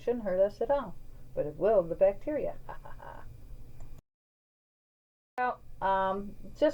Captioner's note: laughs